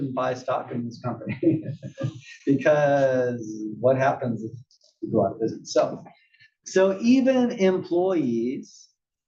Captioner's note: laugh